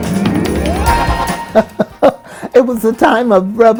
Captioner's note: laughter